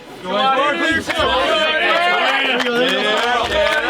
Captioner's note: cadets cheer